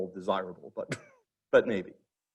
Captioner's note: instructor chuckling